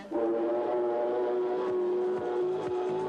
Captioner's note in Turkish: vapur sesleri̇